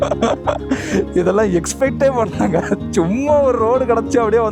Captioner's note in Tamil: சிரிப்பு